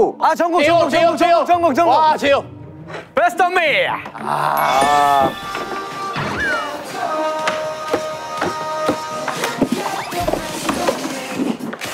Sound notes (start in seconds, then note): 4.1 ding dong; 9.7 throwing shoes